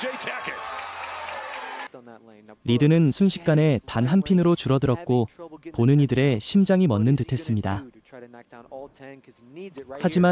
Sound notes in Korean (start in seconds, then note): 0.0 환호